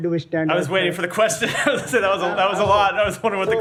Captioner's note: laughter